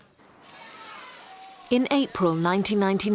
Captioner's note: cameras clicking